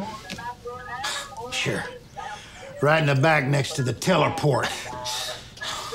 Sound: scoffs

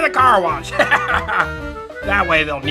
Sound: laughing

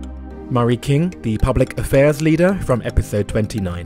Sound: voiceover

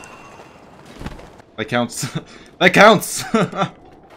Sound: laughs

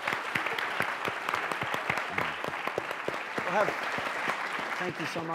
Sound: applause

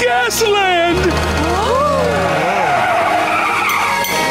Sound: all gasping

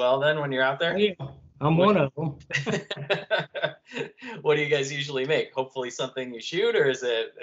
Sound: laughter

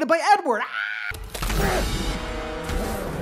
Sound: screams

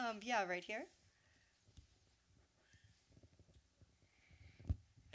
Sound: room noise, waiting for question from audience

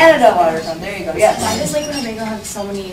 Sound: voiceover

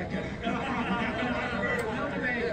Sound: everyone laughing

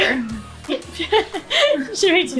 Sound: laughing

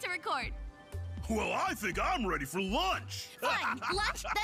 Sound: laughing

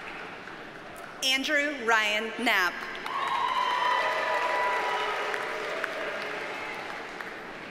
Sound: audience cheers and applauds

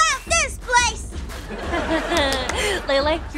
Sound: laughing

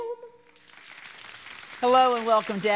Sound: crowd applauding

